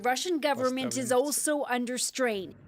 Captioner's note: foreign language